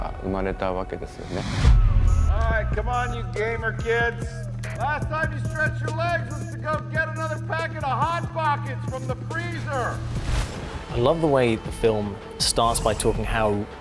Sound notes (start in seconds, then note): 1.6 graphics boom; 9.9 graphics whooshing